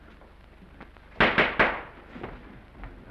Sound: gavel bangs

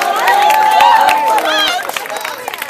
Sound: applause

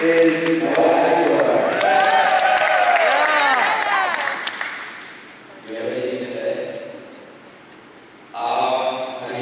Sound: more applause

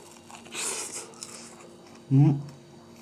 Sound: munching

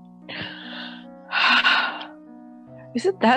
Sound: sigh

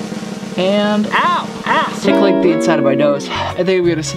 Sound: drum roll; murmurs

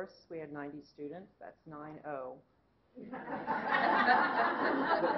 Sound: laughter

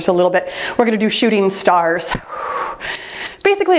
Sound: exhales; timer beeps

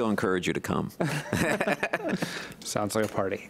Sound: laughing

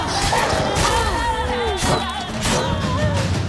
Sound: groan; wolf whines

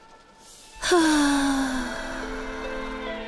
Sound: sighs; gloomy music

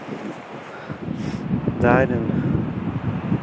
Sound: wind whooshing

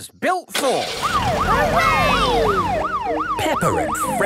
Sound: siren

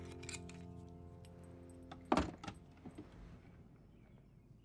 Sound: scratching stops

